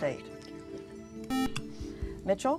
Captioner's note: buzzer